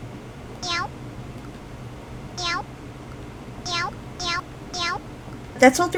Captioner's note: meowing whenever I hit the button